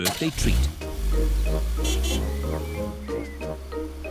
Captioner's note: horn honks